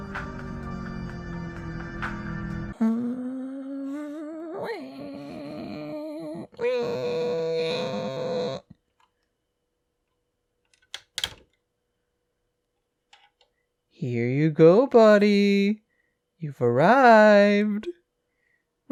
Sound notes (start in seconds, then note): 2.8 making car sounds